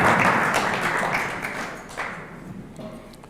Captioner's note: clapping ends